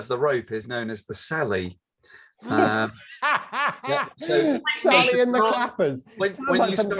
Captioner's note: laughs